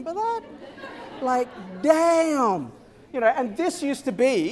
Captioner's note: laughter